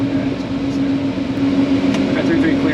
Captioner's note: engine roaring